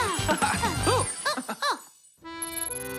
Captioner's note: chuckles; french accordion music